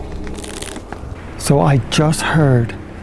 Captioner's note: crunching